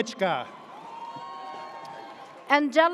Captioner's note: audience cheers